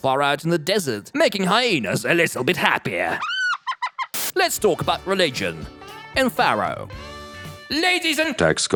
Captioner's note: hyena yeek